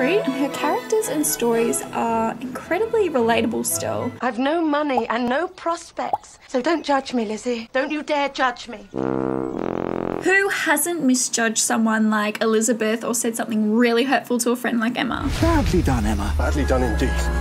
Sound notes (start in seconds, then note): 8.9 sad trombone